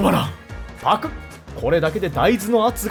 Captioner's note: gulp